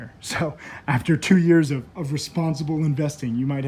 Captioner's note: laughs